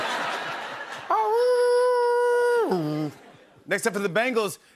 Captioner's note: laughter; mimics horn blowing